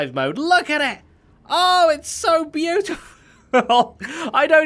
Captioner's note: laughs